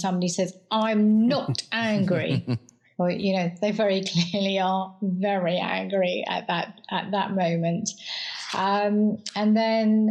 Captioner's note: laugh